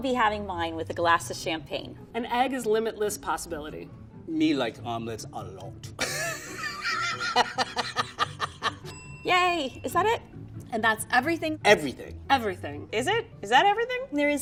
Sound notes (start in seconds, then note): 6.0 laughing; 8.8 bell rings